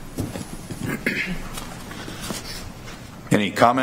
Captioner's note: clears throat